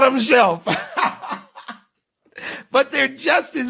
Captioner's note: laughing